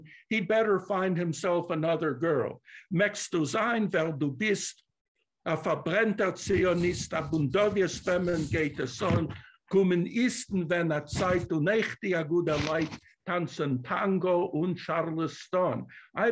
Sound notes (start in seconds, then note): 2.4 non-english